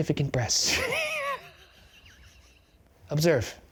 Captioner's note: laughing